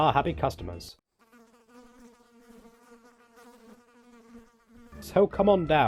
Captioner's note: flies buzzing